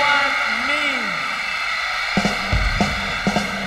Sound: crowd cheering; drums beating

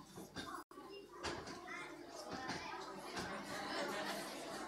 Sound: kids chattering

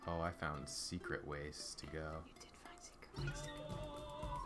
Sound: whispers

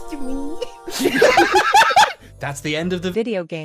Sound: laughter

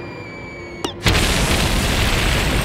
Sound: explosion

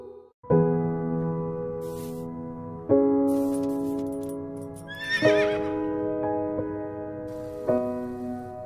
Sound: slow piano music plays; horse whinnies

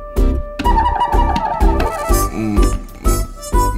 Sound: thud

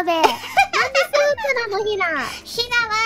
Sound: laughing

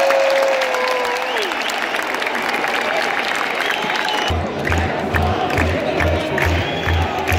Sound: clap

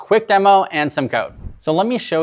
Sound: screen whooshes

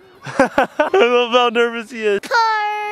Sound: laughing

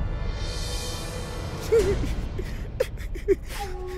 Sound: Pakiya sobbing

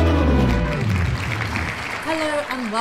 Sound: clapping

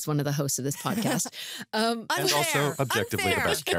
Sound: chuckles

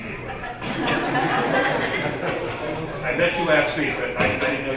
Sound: audience laughing

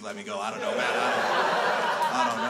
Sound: crowd laughs

